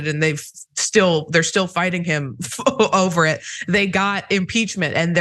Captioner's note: laugh